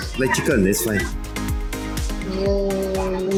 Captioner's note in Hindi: संदेहपूर्ण